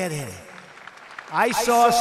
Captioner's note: applause